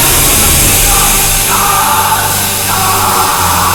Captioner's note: steam hissing; vampire screaming; exalted music